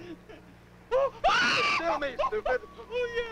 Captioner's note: screams